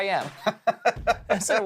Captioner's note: laughing